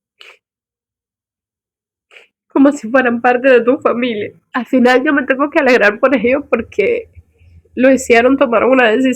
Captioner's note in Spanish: resoplido